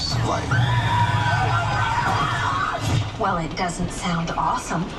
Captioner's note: creatures growl